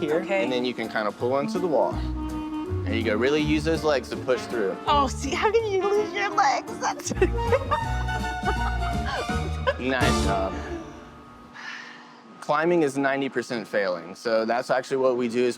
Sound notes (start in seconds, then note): 7.0 laughs